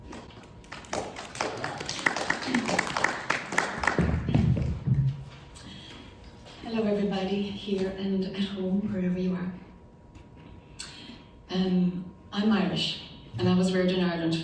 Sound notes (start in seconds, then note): 0.6 audience applauding